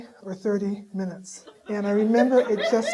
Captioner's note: audience laughing